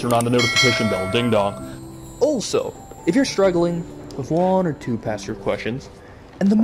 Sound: ding dong

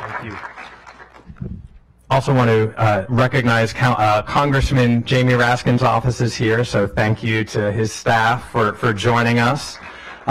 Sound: applause

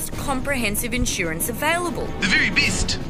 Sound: Kiwi accent

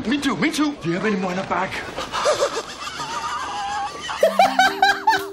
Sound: laughing

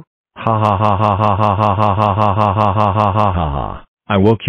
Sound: eric laughing

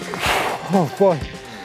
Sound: exhales sharply

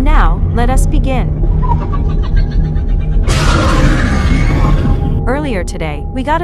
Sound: demogorgon roars

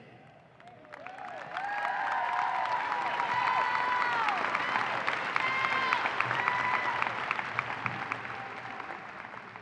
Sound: applause and cheering

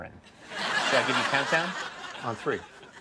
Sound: audience laughs

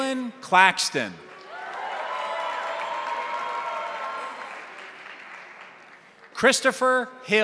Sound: crowd applauding; crowd cheering

